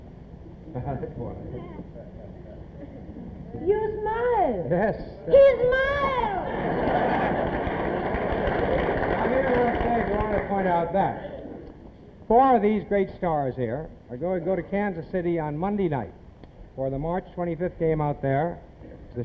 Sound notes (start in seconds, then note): 6.4 audience laughs